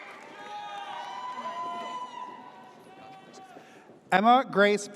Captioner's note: audience cheers